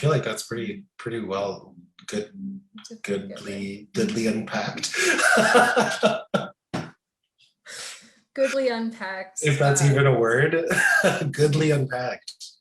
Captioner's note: laughing; laughter continues